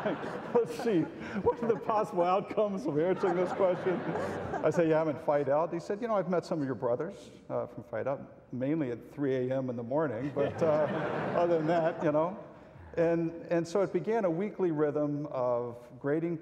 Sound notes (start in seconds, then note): 10.2 audience laughs